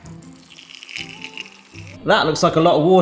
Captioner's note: water splashes